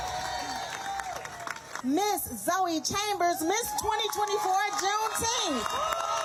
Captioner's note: crowd cheering